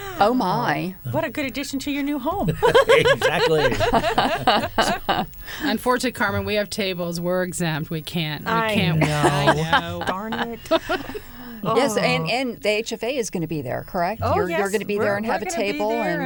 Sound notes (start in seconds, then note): 2.4 laughter